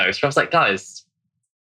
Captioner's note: laughs